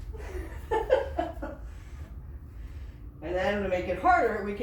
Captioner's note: laughs